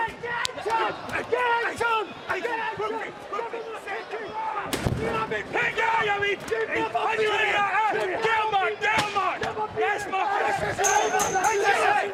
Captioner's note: yelling